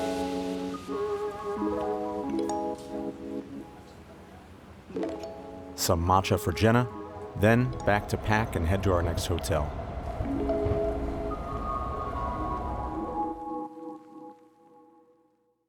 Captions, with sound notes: (Voiceover) Some matcha for Jenna. Then back to pack and head to our next hotel. (Train sounds as music fades)